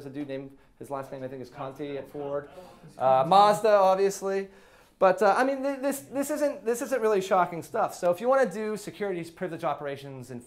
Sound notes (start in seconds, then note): none